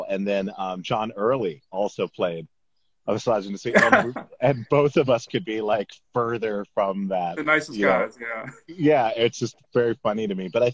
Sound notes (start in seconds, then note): 3.6 laughs; 7.4 laughs